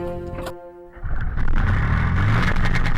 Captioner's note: engine starts